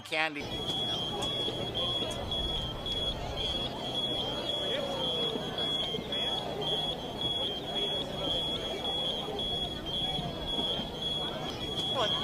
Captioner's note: birds Chirping; chattering